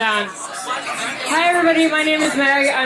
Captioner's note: crowd members chattering